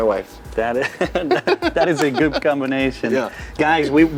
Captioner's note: laughs